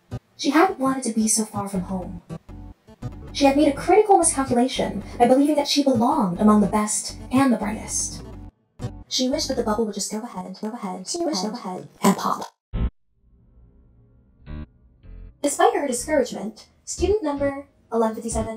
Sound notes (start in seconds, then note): 13.3 glitch; 13.3 booting up